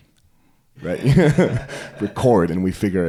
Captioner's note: laughing